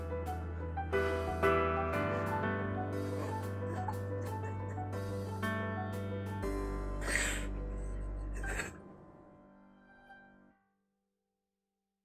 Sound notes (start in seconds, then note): 2.9 cries